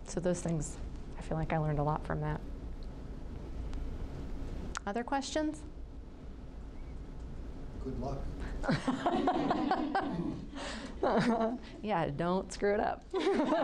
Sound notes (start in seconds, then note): 8.6 group laughing